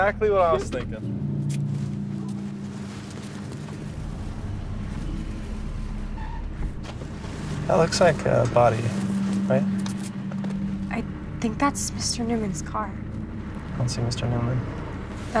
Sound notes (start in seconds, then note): 9.4 tires screeching